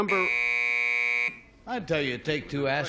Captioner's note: buzzer